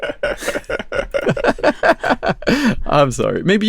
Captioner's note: laughing